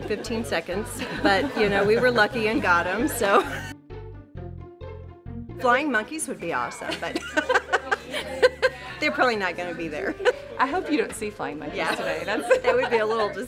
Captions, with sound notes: Tickets sold out in 15 seconds, but you know, we were lucky and got 'em, so... [cheerful music] Flying monkeys would be awesome, but [laughing] they're probably not gonna be there. - I hope you don't see flying monkeys today.